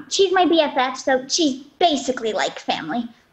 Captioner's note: none